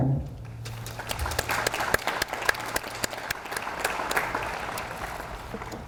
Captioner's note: audience applauds